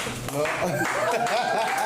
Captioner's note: laughte" r